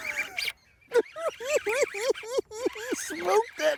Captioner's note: laughing